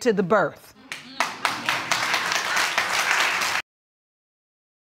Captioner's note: audience applauds